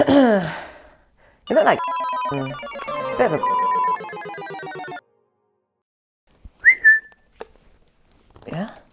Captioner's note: whistles